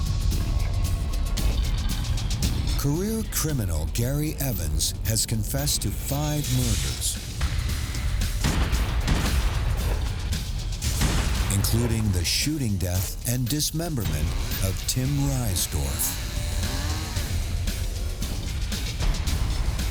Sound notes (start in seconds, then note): 8.4 gunshots popping; 17.0 dramatic music